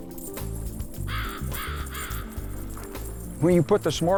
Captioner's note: bird cawing